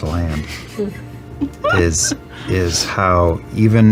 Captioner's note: laugh